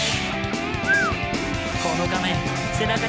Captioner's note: whistles